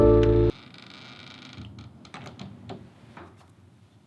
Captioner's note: door creaks